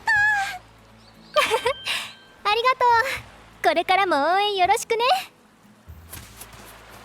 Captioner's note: laughs